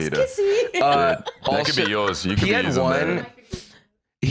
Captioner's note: laughs